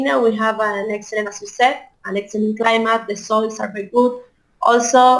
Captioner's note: speaks with accent